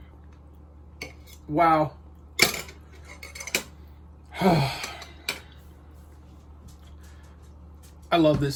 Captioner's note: exhales heavily